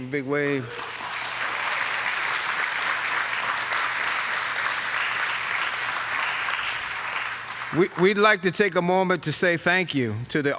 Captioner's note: applause